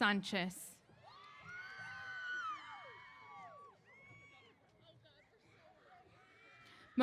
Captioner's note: cheers